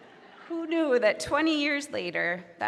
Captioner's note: audience laughing